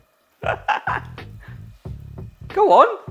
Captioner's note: upbeat music; laughing